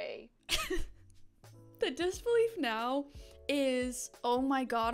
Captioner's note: laughs